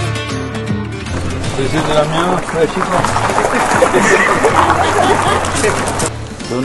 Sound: laughter

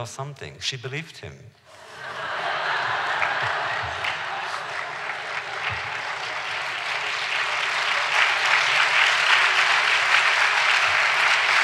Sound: applause

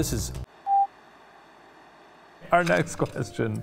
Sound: screen beeps

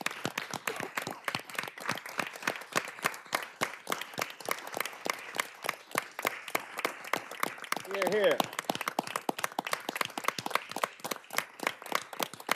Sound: applause

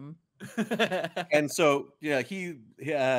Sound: laughing

